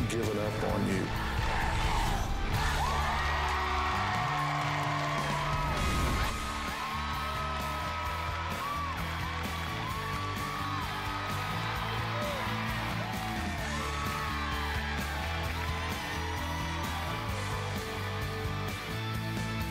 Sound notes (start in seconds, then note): 1.0 crowd chanting "dr. phil!"; 5.5 cheering and applause